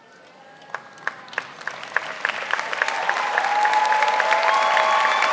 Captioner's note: audience applauding